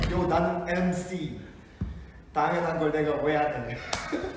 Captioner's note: speaking for Chan to lipsync